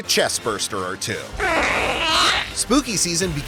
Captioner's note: squealing